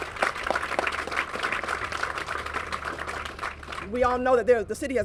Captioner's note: applause